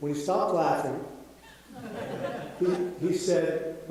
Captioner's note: audience laughing